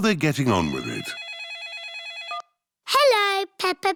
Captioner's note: phone rings